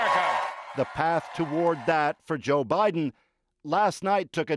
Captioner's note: cheers and Applause